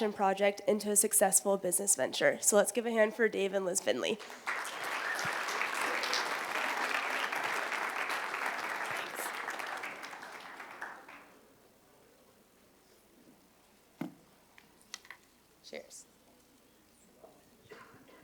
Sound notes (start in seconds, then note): 4.1 applause